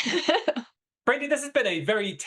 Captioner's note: laughs